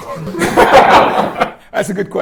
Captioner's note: laughter